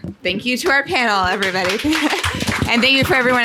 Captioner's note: audience clapping